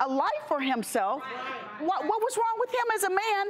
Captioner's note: crowd affirmation